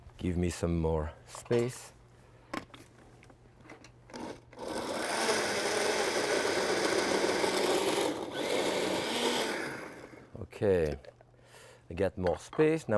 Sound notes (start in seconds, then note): 4.5 blender whirs